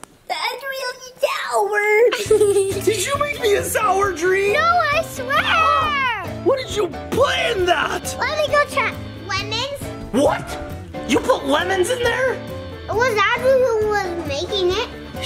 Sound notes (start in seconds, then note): 2.0 laughing